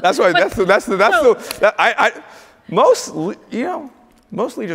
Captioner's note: stammers